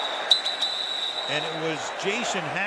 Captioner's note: whistles